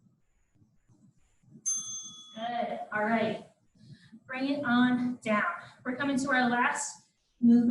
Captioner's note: ding